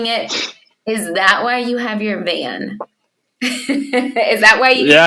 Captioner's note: laughs